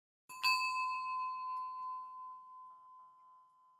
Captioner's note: bright chiming